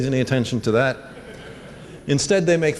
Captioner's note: laughter